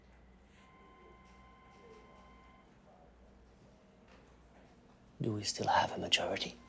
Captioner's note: phone rings in distance